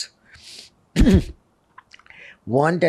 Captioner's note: clears throat